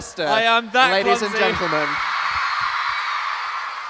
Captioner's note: audience Cheering